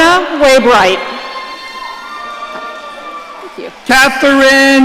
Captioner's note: audience cheering